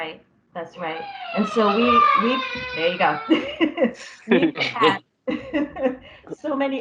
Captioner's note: child crying; laughter